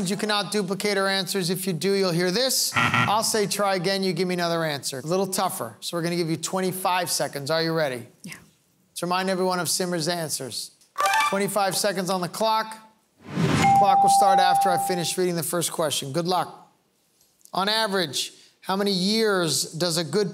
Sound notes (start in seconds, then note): 2.6 loud buzzing